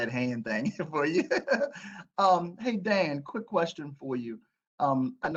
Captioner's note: laughter